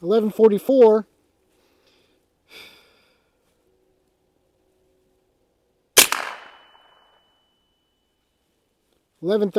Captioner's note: gunshot